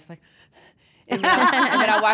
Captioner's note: laugh